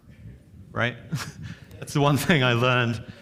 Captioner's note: chuckles